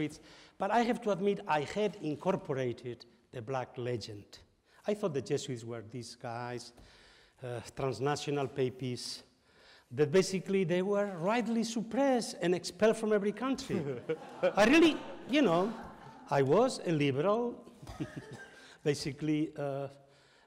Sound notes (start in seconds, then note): 13.6 audience laughs; 15.5 audience sighs